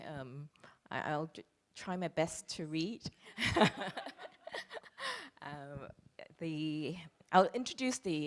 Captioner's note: laughs